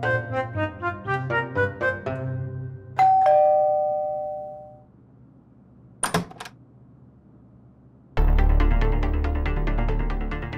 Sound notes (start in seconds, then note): 3.0 ringing doorbell; 6.0 door opens; 8.2 tense music